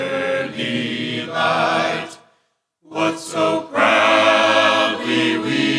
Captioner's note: none